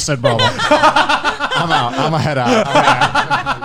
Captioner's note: laughing